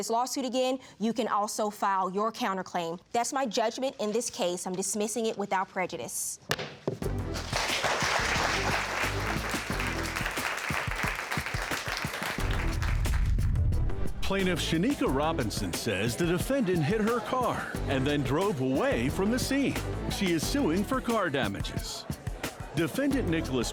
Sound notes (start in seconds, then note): 6.5 gavel banging; 7.2 audience clapping